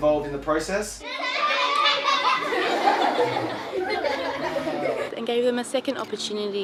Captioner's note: laughter